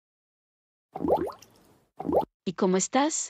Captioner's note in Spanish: FX - Water Bubble